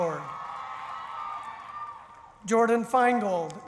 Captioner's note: cheering